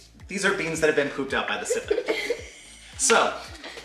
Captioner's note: laughs